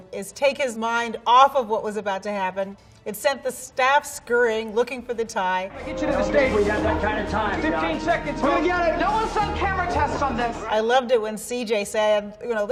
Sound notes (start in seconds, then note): 5.6 people chattering